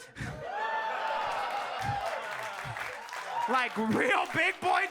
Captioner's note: audience cheering and clapping